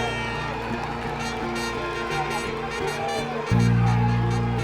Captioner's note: horn honking